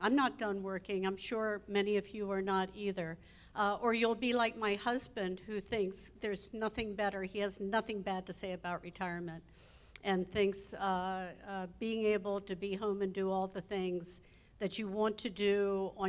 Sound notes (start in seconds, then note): none